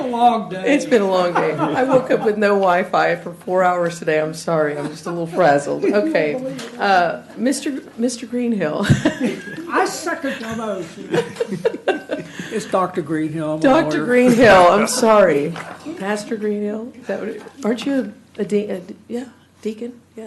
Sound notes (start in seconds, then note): 9.1 laughter